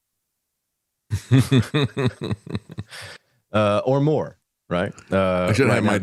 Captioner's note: laughs